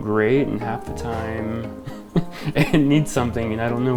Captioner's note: laughs